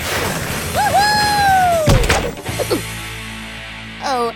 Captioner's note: hard thud on the ground